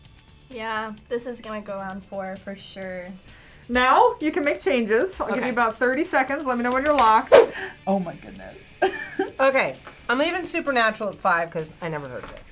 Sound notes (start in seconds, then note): 8.8 laughs